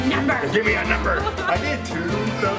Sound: laughing; laughs

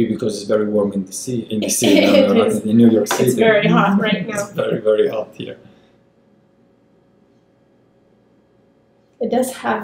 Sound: laugh

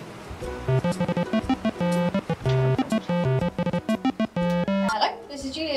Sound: mobile phone rings

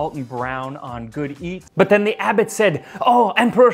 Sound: french accent

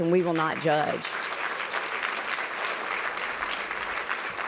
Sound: applause

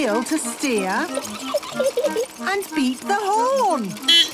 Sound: giggling; beeping

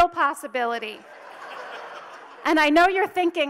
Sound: audience laughs

